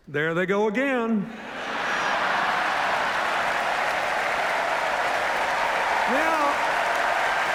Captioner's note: laughter, cheers, applause